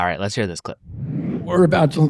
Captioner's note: graphics whooshing